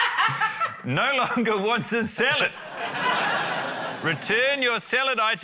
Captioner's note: laughs; urzila laughs; laughter